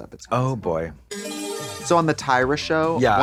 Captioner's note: bright chime